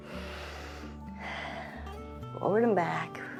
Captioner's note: inhales and exhales